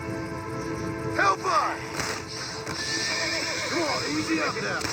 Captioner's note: shooting and cries of animals; shotgun and frightened horse